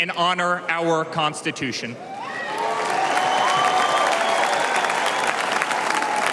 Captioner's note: cheers and applause